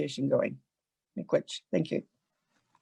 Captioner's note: speaks in foreign language